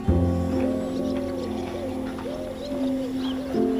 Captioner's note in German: Taubenrufe